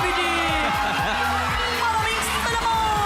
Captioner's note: robi laughs